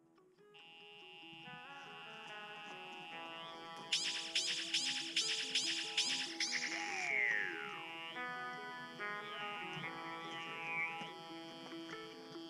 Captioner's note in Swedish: surrande o brummande musikaliska ljud och skjut-effekter när insekterna träffas